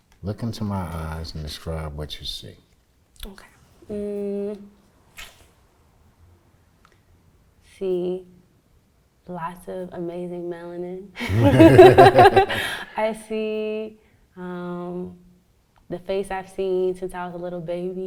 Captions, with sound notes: Look into my eyes and describe what you see. - Okay, mm. I see lots of amazing melanin. (both laugh) I see the face I've seen since I was a little baby